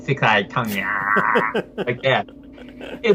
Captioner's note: laughs